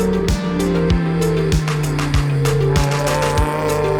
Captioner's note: engine revs